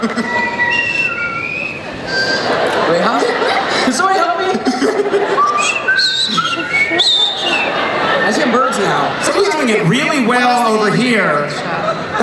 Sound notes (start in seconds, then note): 0.1 random whistling; 5.3 whistling